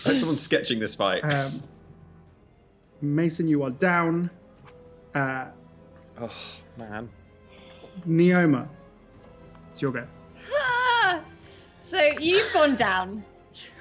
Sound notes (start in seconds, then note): 10.5 yells in panic